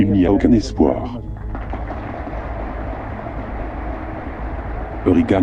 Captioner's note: applause